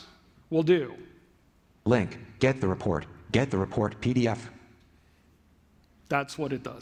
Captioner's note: computerized voice